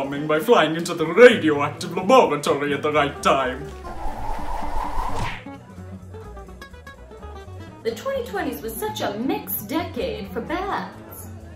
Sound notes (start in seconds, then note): 3.8 whooshing newspaper